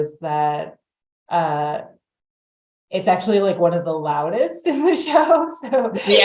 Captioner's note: laughs